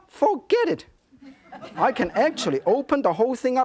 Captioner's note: audience giggling